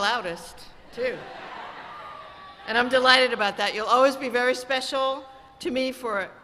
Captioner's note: cheers and applause